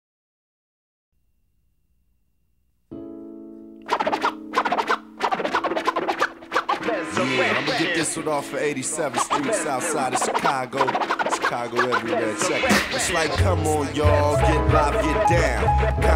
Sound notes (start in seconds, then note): 3.2 record scratching